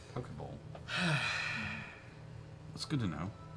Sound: sighs

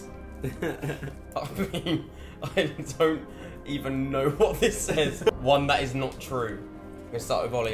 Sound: laughing

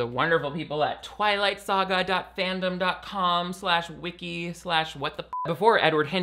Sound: beep

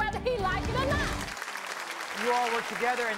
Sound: audience applauding

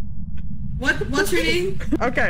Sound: giggles

